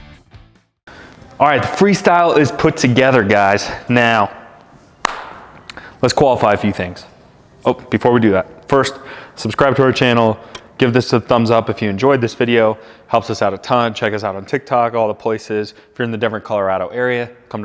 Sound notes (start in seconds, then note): 5.0 hands claps